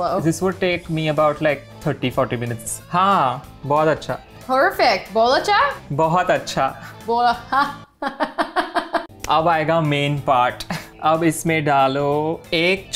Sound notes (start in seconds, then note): 3.0 speaking in Hindi; 5.0 speaking Hindi; 5.9 speaking in Hindi; 7.0 laughing; 9.2 speaking in Hindi